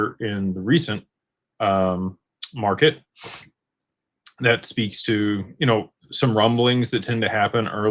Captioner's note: snorts